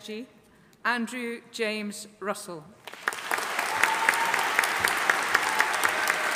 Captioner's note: audience applauding